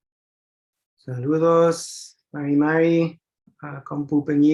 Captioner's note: non-english speech